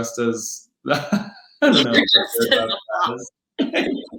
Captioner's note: laughing